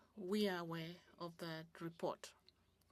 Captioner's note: speaking French